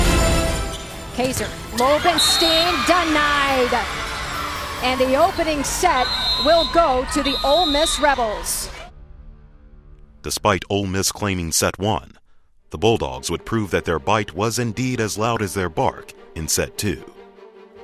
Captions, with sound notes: Kazor, roll up and (whistle blows) stand denied! The opening set will go to the Ole Miss Rebels. - [Voiceover] Despite Ole Miss claiming set one, the Bulldogs would prove that their bite was indeed as loud as their bark in set two.